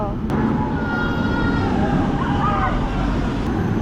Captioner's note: screaming